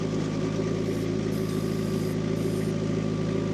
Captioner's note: engine rumbling